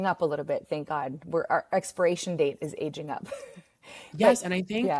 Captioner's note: chuckles